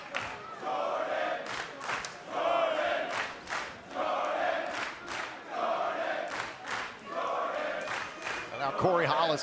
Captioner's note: fans chanting